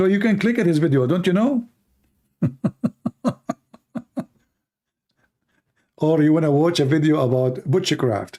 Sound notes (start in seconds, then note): 2.4 Ketawa